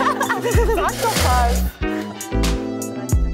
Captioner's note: laughter; outtro music